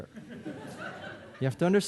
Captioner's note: audience laughing